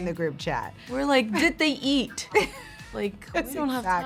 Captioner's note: laughs